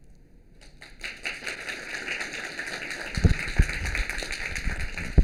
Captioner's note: applause